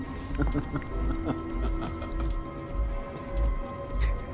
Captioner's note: dramatic music; vampire laughing